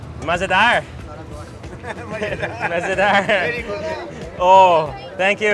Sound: speaks in foreign language

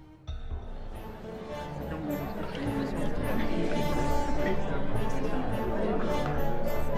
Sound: ominous music; playful orchestral music; party guests chattering

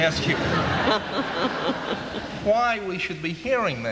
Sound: laughter

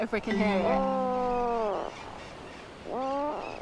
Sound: puffin call

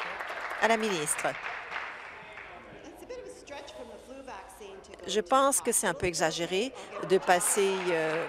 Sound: applause

